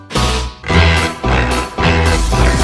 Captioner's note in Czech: Zase smrkání; Zase troubení